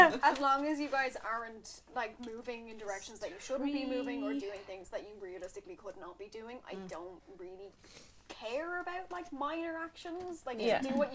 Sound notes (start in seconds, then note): none